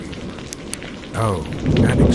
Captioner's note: flashlight turns on